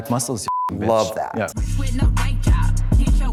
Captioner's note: beep; upbeat hip hop music